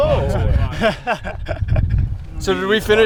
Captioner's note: man laughing